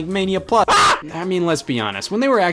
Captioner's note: screams